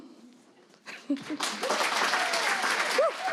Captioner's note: applause